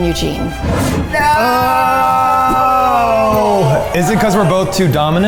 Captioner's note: air whooshing